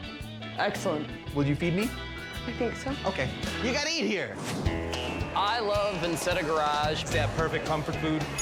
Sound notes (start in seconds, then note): 4.3 logo whooshes; 5.2 upbeat music